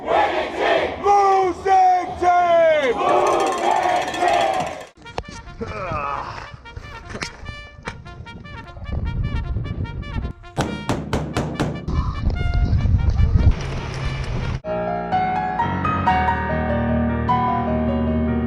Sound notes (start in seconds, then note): 0.2 crowd; 2.2 crowd; 2.9 cow bell dinging; 10.6 bullets thudding; 15.0 classical piano music